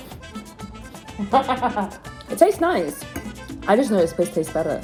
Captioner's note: laughs